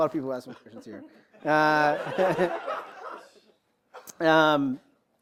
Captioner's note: laughter